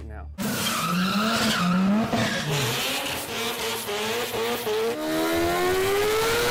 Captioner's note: tires squealing; engines revving